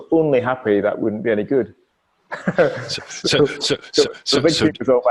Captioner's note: laughing